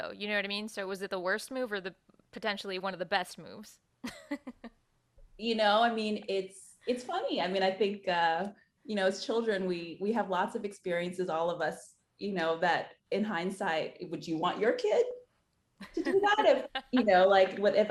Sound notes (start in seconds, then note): 4.0 chuckles; 15.8 laughing